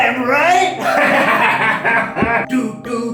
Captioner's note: laughing